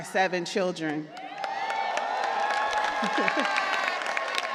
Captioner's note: cheers and applause